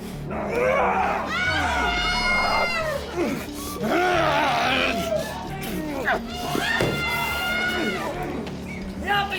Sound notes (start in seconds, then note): 0.4 people screaming; 0.8 Alan groaning